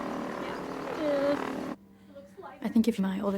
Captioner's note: playful nervous whimper